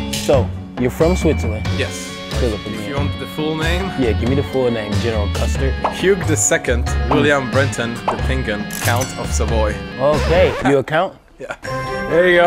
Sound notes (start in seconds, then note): 10.1 record scratch